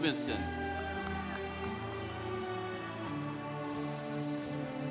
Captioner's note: congregation cheering